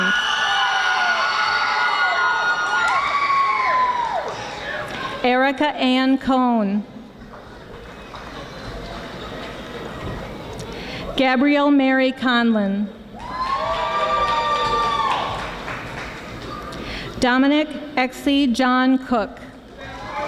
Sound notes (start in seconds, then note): 0.0 audience screaming; 13.2 audience screaming